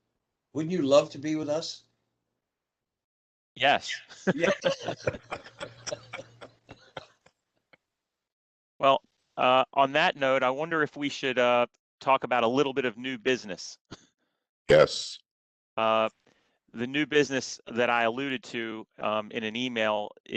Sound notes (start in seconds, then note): 4.1 laughter